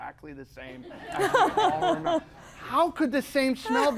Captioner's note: laughter